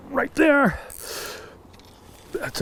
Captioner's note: reel spinning